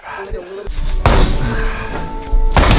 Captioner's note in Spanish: Golpe violento